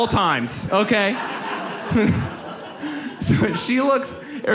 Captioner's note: audience laughs